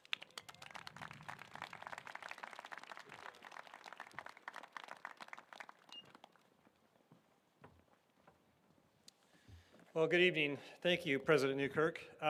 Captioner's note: applause